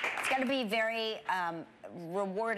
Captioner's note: audience applause